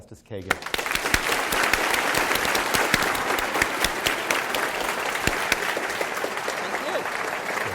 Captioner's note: applause